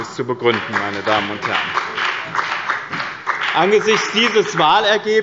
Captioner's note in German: Beifall bei dem BÜNDNIS 90/ DIE GRÜNEN